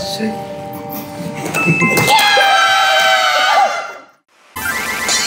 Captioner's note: screams